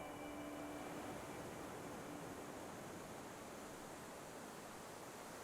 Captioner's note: ocean waves